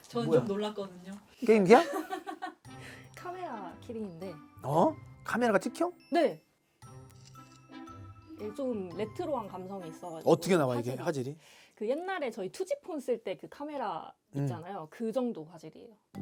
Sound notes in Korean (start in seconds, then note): 7.1 찰칵